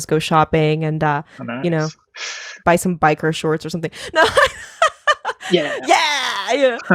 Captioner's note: laughing